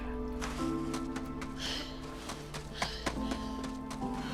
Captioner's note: panting; breathing heavily